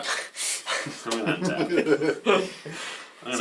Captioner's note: all laugh